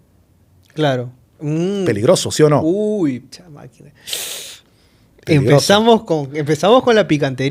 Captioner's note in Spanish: resoplido